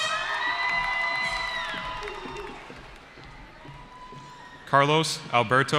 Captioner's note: cheering